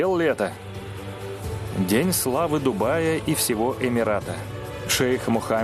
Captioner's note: voiceover